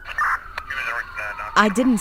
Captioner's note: sirens wailing